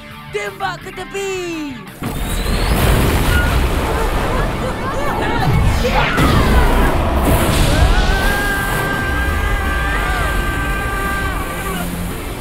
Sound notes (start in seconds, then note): 3.1 Pian and Mara screaming; 7.8 screaming